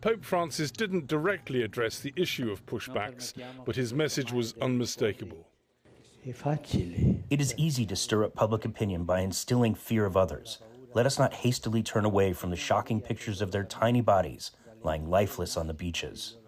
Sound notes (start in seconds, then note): 5.8 through translator